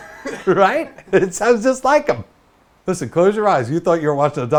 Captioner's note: laughs off-camera